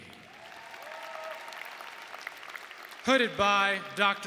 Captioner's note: audience applauding